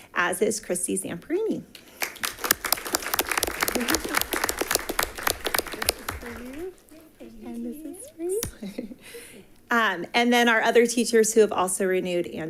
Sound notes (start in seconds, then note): 1.9 attendants applauding; 9.2 giggles